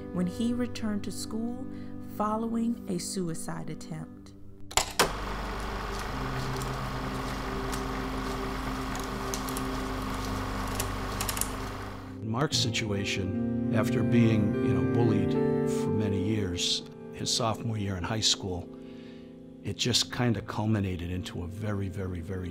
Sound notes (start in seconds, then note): 5.0 machine noise